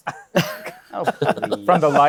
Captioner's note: laughter